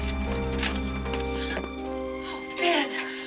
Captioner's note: gasps